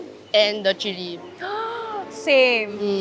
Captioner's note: gaspsss